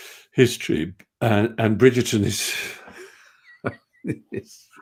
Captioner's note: laughs